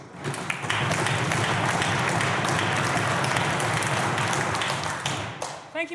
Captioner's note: clapping